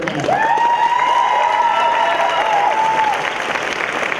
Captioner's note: cheering